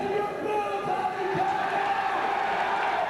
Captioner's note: crowd cheering